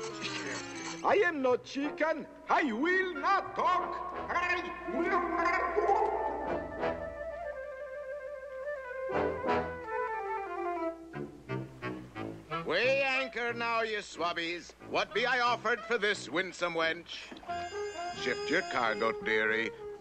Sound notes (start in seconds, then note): 3.2 echoing; 5.6 gurgling